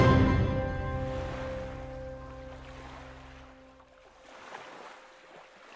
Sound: water flows gently

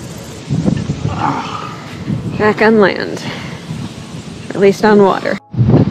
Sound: groans

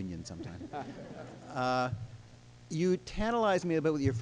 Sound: laughing

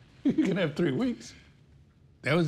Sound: chuckling

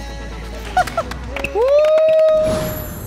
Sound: kekekekeke

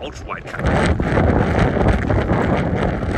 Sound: wind blowing

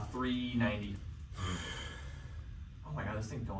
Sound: sighs

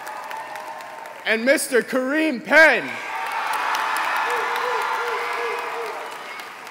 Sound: applause

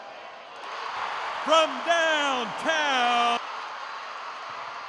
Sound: cheers

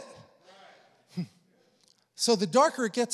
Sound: congregation affirming

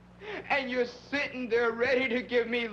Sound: sobbing

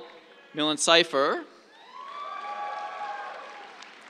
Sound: cheers

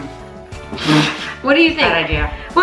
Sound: laughs

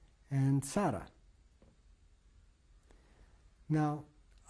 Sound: pauses for 3 seconds

